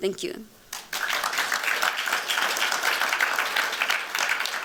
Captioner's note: applause